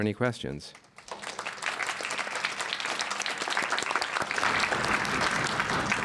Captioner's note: applause